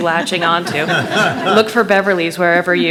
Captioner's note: attendees laughing